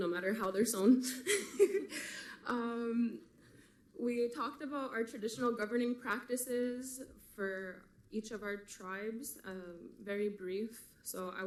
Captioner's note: laughs